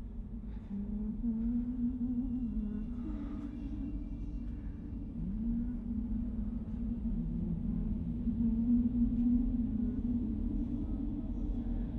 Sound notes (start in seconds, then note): 0.7 woman humming